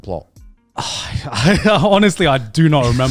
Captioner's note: sighs